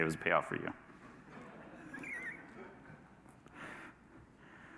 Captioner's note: audience laughs